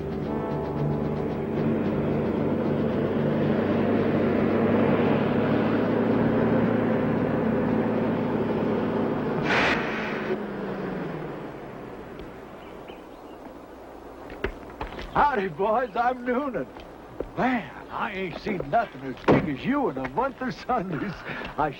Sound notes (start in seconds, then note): 0.0 suspenseful music; 0.3 engine whirring; 9.2 truck hisses and stops